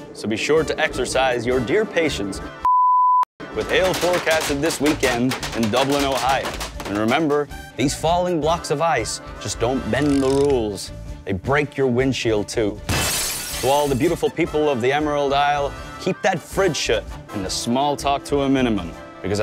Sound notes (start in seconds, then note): 12.8 glass shattering